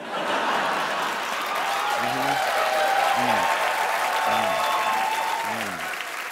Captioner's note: cheers and applause